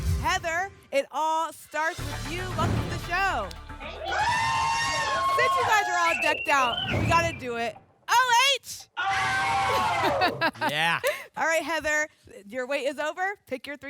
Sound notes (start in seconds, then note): 3.8 cheering; 9.8 laughs